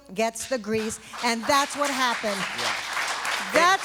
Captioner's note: applause